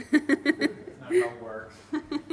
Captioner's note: laughs